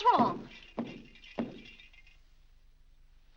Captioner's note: foot stomping; lights rattling